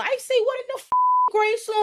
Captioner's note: beep